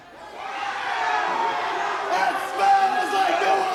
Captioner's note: crowd boos